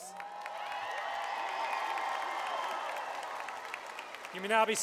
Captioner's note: crowd Cheering